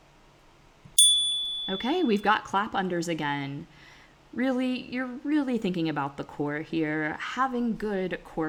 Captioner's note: chime